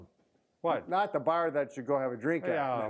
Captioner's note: laughs